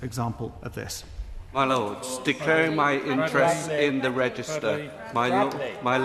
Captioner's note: members chatter